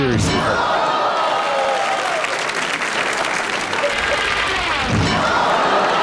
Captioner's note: audience cheering and clapping